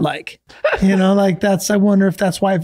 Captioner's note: laughing